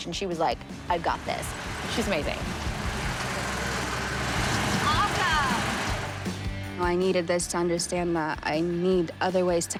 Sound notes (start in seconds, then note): 3.3 tank engine revving